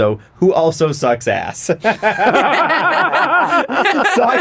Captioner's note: giggling